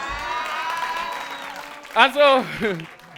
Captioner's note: audience cheering; audience laughing